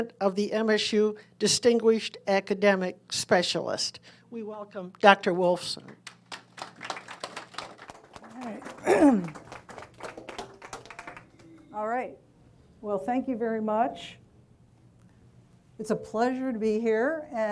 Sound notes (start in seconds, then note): 6.0 audience applauding